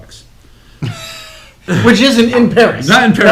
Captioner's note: laughs